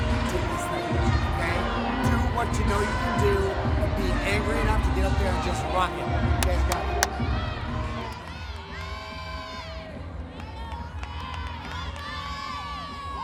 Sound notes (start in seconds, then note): 7.7 audience cheering